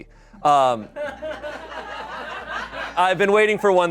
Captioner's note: audience laughing